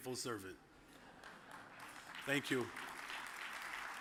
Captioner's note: audience applauds